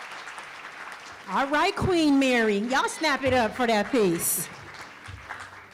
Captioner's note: cheering and applause